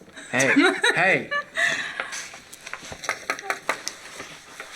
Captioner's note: laughing; knocking